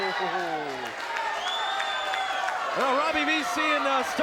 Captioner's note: audience applauds and cheers